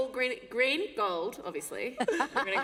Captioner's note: laughter